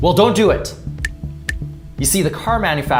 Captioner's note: ticking